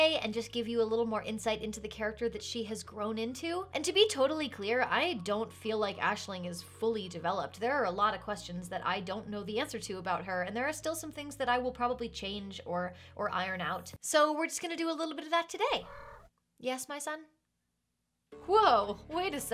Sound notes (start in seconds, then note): 15.8 meow